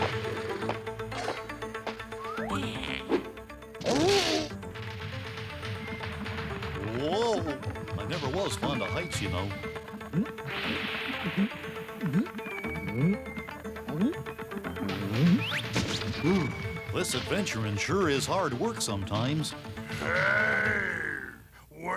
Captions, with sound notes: (groans) Whoa! I never was fond of heights, you know. Oh, this adventuring sure is hard work sometimes. Hey, where'd it go?